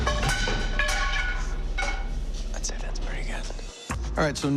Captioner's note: whispering